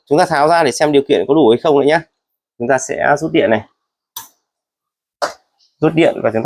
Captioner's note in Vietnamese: hắng giọng